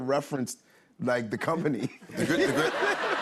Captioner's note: laughter